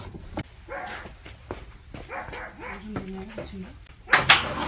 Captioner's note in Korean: 계속 짖음